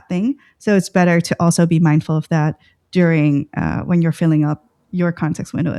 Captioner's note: uh